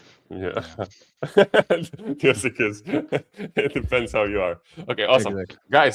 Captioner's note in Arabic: ضحك